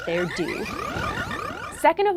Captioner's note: rhythmic frog croaking